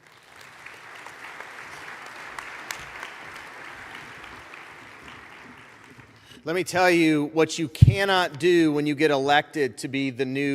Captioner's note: applause